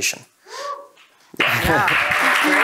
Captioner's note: audience applauding; audience whooping